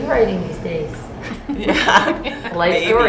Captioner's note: chuckling